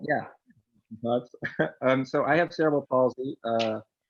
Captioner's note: chuckles